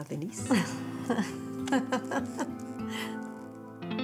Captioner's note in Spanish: Risas